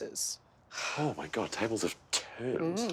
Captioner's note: sighing